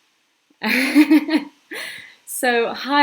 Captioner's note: laughing